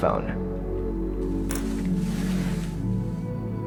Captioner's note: air hissing